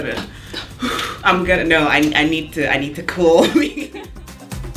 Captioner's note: laughs